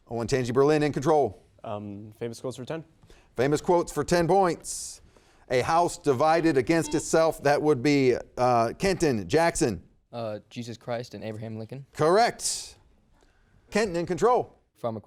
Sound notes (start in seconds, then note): 6.7 buzzer beeping